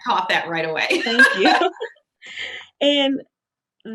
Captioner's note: laughing